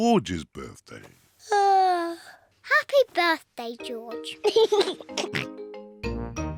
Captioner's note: yawns; laughs and oinks